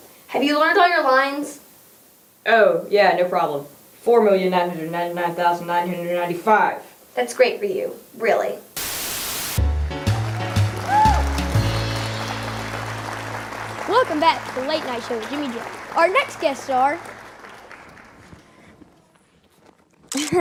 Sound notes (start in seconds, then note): 9.6 light jazz music; 12.4 applause